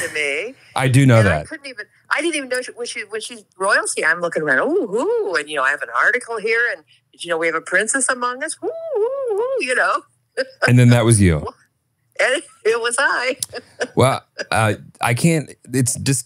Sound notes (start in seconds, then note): 8.6 screams